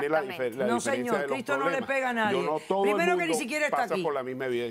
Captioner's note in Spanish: Hablan al unísono